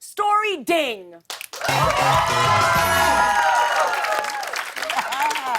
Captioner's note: cheers and applause